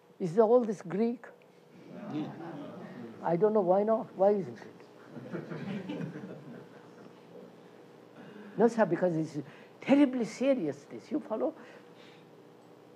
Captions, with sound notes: Is all this Greek? Q:No. K:I don't know, why not? Why isn't it? [Laughter] No, sir, because this is terribly serious, this. You follow?